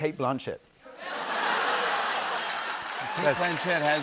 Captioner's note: laughter and applause